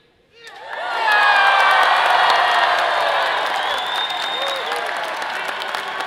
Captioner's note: audience applauding and cheering